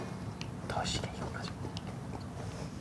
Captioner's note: Devil's whisper